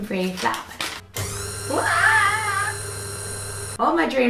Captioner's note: mixer noises